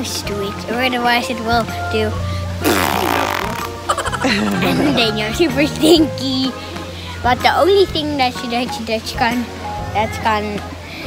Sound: farting sound

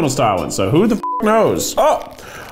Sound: beeps

